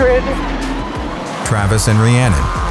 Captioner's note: engine noise